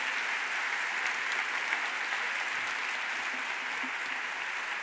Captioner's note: audience applauds